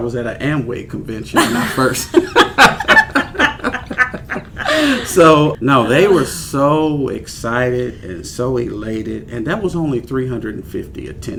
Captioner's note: laughter